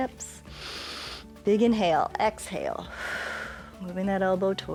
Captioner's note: inhales; exhales